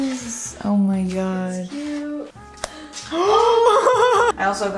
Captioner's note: gasp laugh